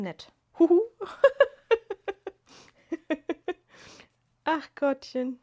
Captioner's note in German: gelächter